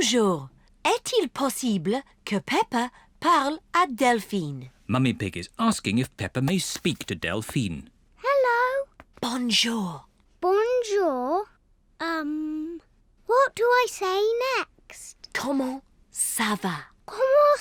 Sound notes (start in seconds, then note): 9.0 whispering